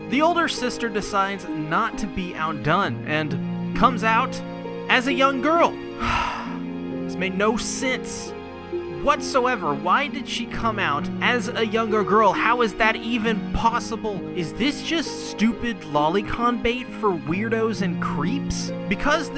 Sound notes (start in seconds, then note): 6.0 sigh